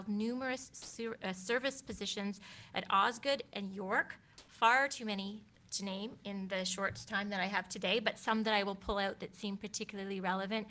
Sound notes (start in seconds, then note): none